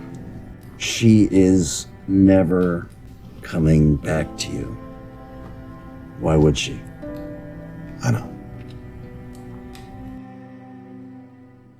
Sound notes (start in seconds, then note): 8.2 voiceover